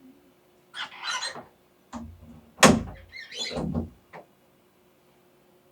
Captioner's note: sound of a door closing